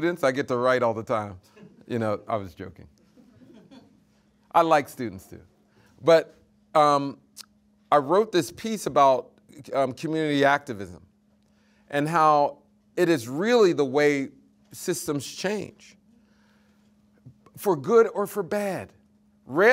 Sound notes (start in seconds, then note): 3.0 students laughing